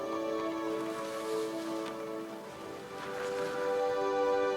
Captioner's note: hand rubbing